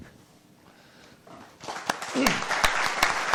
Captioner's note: applause